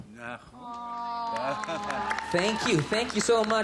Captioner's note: audience applauding